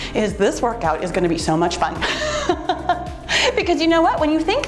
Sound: laughs

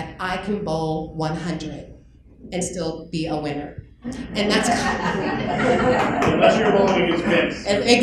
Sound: laughter

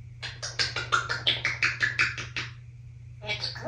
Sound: lip smacking sounds

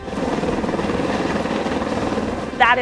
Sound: helicopter taking off

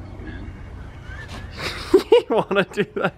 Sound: laughs

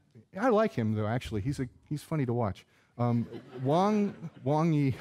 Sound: audience laughing

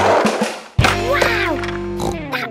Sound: snorts

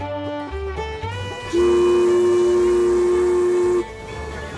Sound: whistle blowing

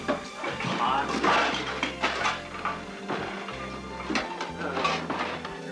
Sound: sizzling

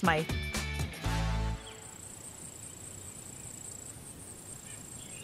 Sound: insects chirping; birds chirping

